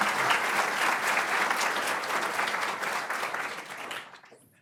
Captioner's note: audience applauding